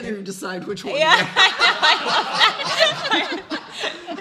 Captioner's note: laughing